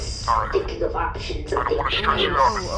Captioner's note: distorted voice